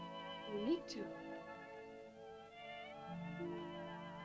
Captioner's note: soft music; girl speaks in caveman language; soft music